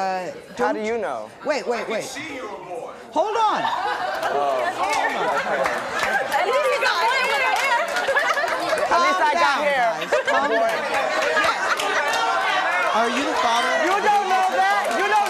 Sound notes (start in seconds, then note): 3.5 laughing; 4.8 audience clapping